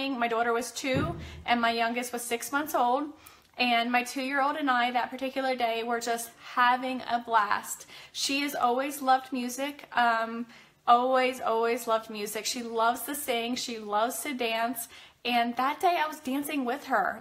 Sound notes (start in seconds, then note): none